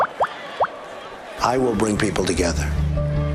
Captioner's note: cheering and applause